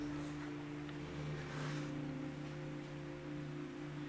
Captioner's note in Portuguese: none